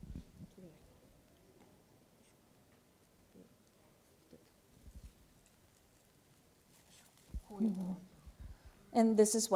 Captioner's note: speaking japanese